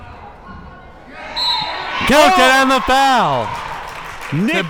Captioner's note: whistle